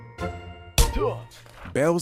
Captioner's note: exclaims; head thuds